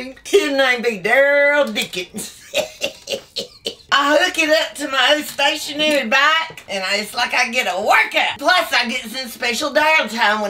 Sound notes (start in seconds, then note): 2.2 laughs